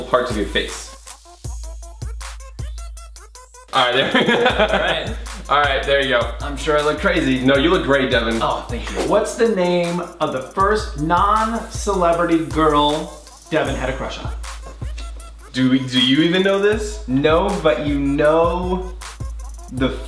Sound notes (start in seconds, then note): 1.6 trippy music; 3.8 brothers laugh loudly